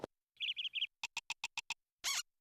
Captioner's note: chirping; squeaking